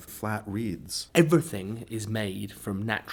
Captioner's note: voiceover